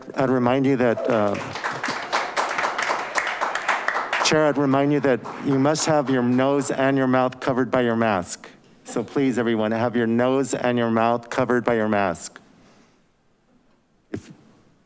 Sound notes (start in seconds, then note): 2.5 audience applauding